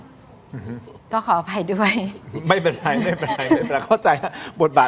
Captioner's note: laughter